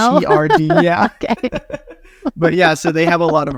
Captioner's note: laughing